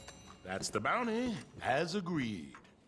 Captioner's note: none